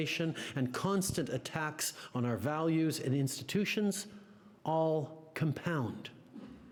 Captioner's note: speaking French